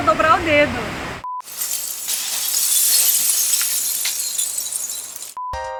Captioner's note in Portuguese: Som de vidros caindo